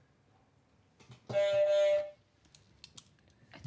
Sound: honk

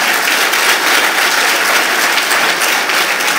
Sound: applause

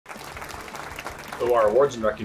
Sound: crowd clapping

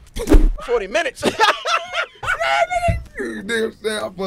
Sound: laughing

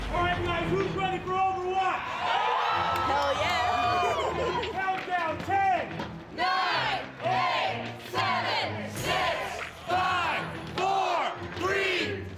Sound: cheers and Applause

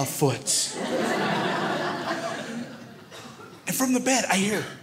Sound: crowd laughs

